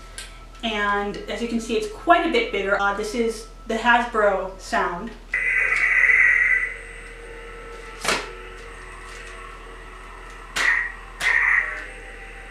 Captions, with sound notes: And as you can see it's quite a bit bigger. This is the Hasbro sound. [startup sound effect] [humming] [clash sound effect]